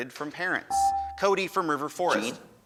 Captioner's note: buzzer dings